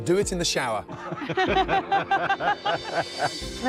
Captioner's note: laughing